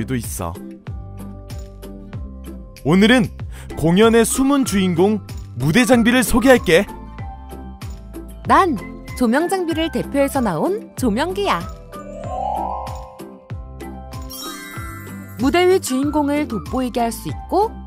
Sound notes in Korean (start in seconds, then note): 12.0 신비로운 효과음; 13.9 반짝이는 효과음